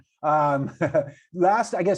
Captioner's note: chuckles